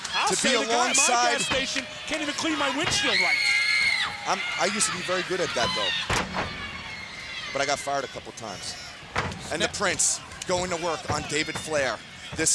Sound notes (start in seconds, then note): 3.6 Daffney screaming; 9.1 body thudding